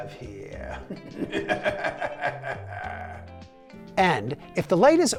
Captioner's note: laughing monstrously